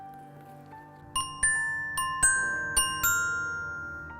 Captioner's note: pleasant chime